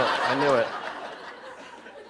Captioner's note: laughter